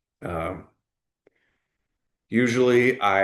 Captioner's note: pause